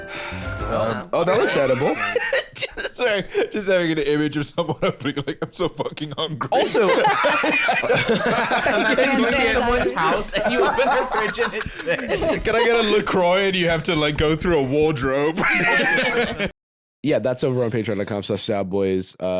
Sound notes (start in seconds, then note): 1.3 laughing; 7.1 all laughing